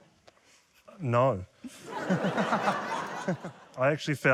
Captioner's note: laughter